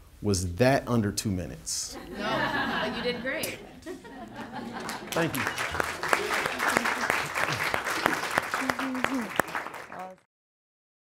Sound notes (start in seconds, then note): 2.1 audience laughter; 6.4 audience applauding